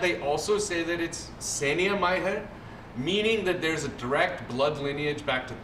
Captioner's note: non-english